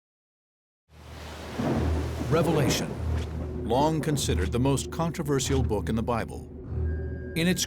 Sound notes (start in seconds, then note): 1.1 thunder